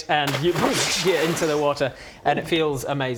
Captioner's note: dunk; boosh